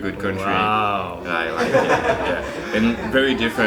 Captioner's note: background laughter